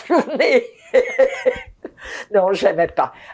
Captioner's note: laughing